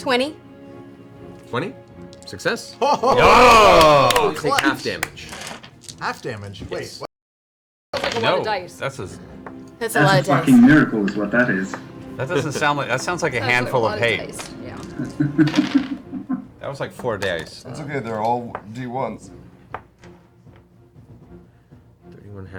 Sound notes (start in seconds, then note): 2.8 all cheer